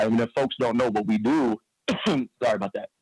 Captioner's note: coughs